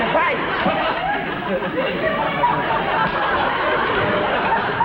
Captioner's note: audience laughs